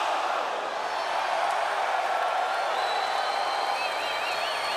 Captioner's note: crowd cheers